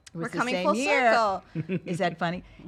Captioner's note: laughs